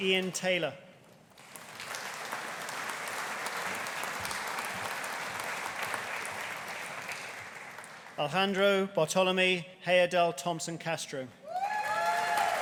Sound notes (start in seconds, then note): 1.3 audience applauding; 11.5 audience cheering; 11.6 audience applauding